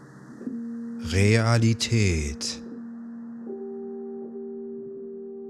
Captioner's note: german